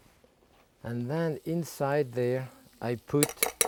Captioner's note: fork clinking